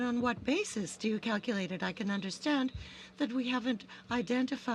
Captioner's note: speaking french